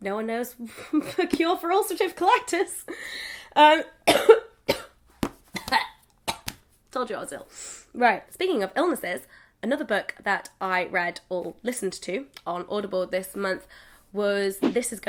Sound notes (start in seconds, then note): 1.0 laughs; 4.0 coughs